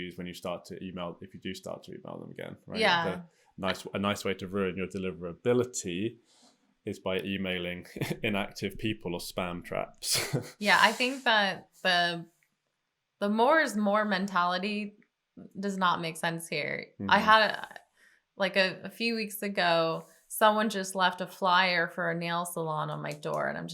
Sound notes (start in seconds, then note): 10.0 chuckles